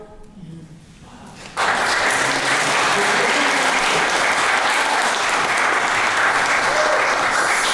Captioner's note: applause